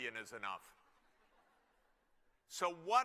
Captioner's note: laughter